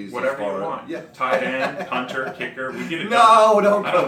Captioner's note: laughs